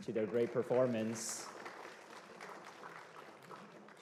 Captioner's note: applause